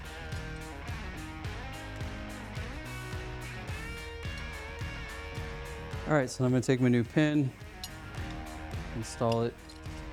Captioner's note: sawing